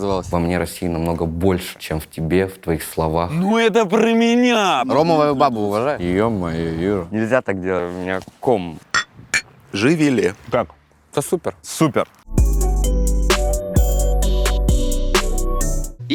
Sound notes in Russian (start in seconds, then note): 8.9 Чоканье стекла; 12.3 Музыкальная заставка